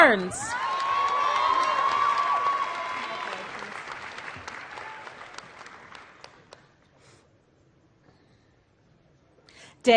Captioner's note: applause